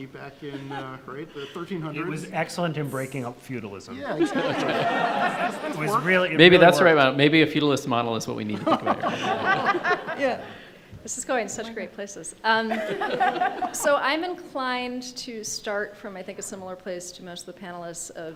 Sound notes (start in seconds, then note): 3.9 all laughing; 12.7 group chuckling